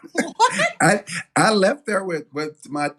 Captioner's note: laugh